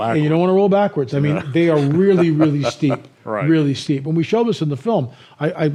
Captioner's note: chuckles